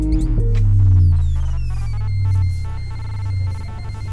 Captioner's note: audio whirring